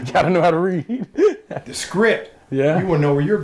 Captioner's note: laughs